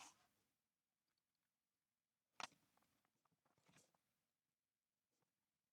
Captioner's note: clicking